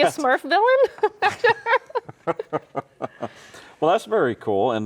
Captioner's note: both laughing